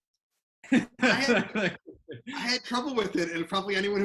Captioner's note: laughs